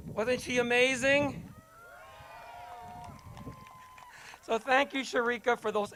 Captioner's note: crowd cheers